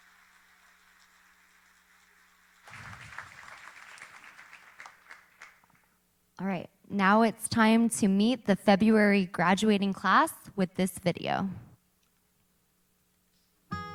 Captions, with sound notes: single day especially LA Orange County chapter who is always there when I say I need some help. Thank you all so very much. [Applauding]